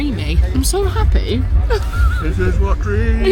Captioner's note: laughs